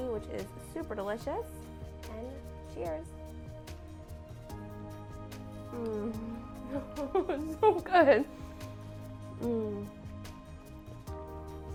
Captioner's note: laughing